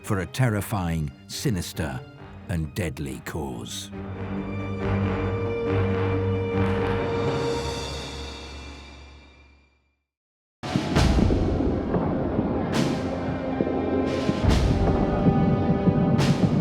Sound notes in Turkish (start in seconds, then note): 10.6 davullu gergin orkestra müziği; 10.8 çoklu patlamalar